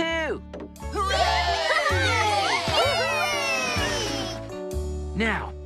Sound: machines Cheer

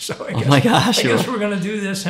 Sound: laughs

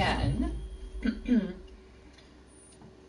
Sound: clears throat

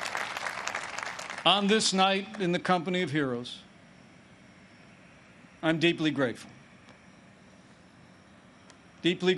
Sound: applause

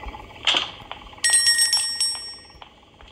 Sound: jingling

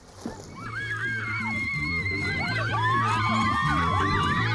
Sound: girls screaming

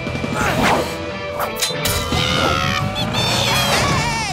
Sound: yelling

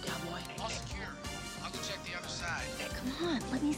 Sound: Dwayne Over Radio

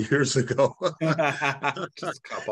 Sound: laughter

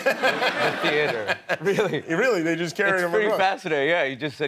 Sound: laughter

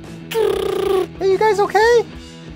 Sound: raspberry noises

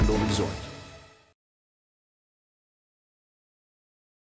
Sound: silence

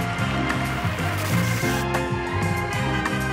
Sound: audience applauding; static hisses; car horns honking

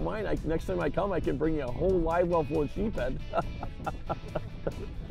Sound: laughs

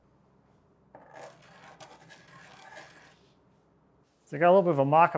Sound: pencil whirring

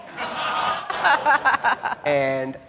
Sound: laughing

